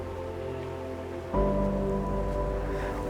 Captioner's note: waves crashing; footsteps